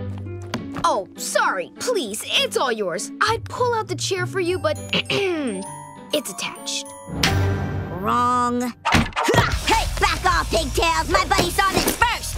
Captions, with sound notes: Oh, sorry. Please, it's all yours. I'd pull out the chair for you, but [clearing throat] it's attached. Wrong. [grunting] Hey! Back off, pigtail! My buddy saw this first!